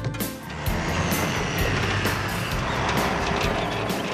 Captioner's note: engines Rumble